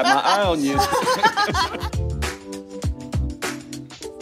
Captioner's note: laughter